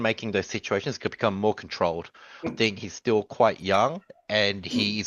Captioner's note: laughs